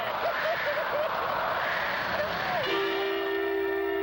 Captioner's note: crying; dramatic music